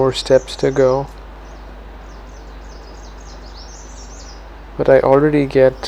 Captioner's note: birds chirping